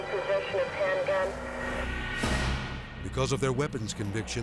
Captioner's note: dramatic whoosh